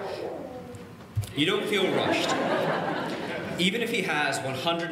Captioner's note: laughing